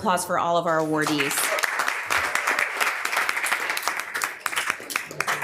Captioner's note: members applauding